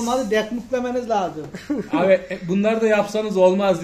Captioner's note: laughter